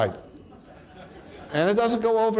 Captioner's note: audience laughs